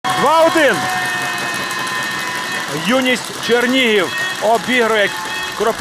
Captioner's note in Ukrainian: Шум вболівальників